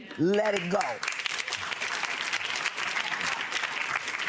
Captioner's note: applause